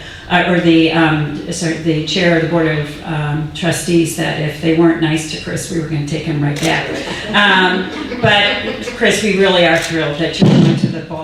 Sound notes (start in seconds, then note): 6.5 audience laughing